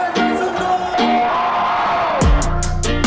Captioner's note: crowd cheering; energetic upbeat music